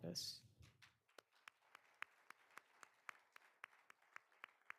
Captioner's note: all applauding